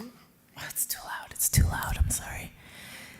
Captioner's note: whispers